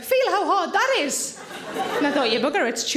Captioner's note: audience laughing